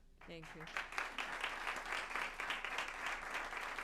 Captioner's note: applause